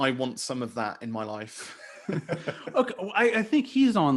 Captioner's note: laughing